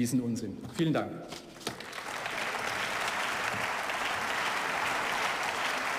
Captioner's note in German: Beifall